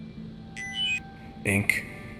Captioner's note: COMM-LINK beeps